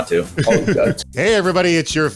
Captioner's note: laughing